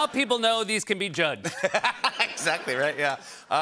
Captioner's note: laughter